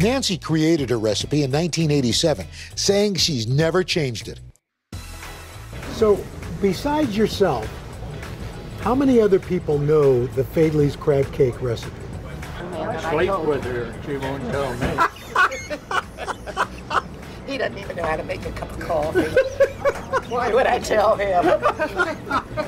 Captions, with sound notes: - Nancy created her recipe in 1987, saying she's never changed it. So Besides yourself, how many other people know the Faidley's crab cake recipe? (laughs) - He doesn't even know how to make a cup of coffee. Why would I tell him?